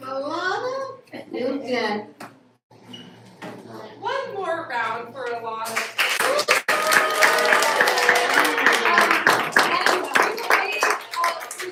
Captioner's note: applause